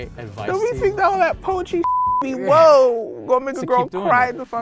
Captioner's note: beep